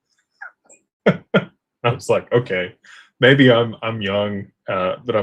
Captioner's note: laughter